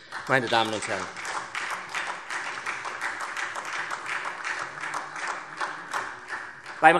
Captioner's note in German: Beifall SPD